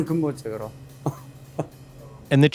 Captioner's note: chuckles